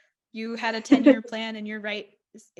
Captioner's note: laughs